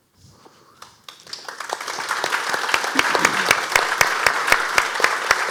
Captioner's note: audience applauding